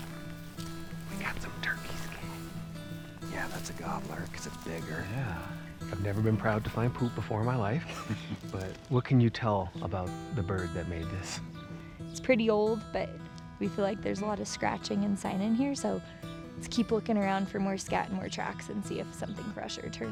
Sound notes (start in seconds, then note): 0.9 whispers